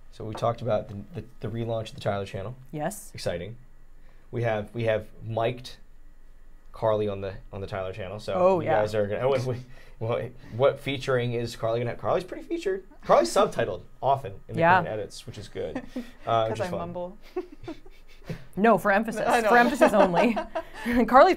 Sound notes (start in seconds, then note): 17.2 chuckling